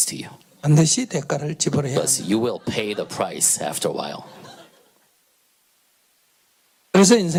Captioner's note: audience Laughter